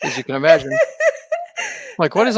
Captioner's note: laughing